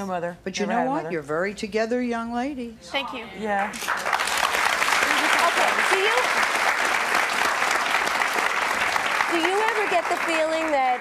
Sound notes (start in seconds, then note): 3.6 applauding